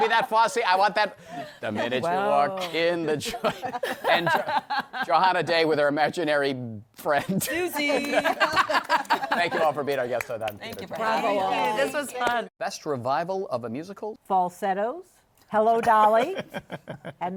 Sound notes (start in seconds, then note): 7.8 laughter